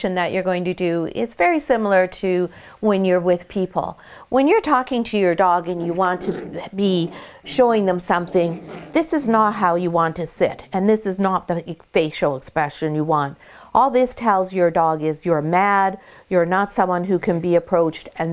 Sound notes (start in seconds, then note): 5.7 puppy growling